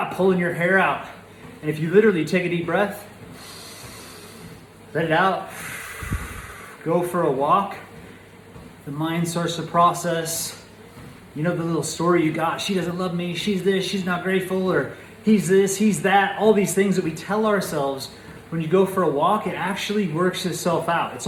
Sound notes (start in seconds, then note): 5.4 inhales; 5.4 exhales